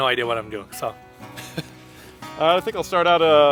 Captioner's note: chuckles